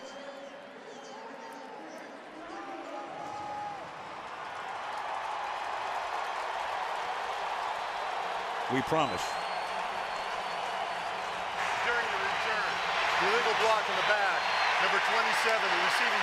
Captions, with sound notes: [pa announcement] [cheering] We promise. During the return, illegal block in the back, number 27,